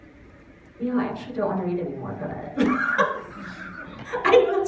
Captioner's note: laughs